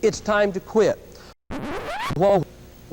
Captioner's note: record scratch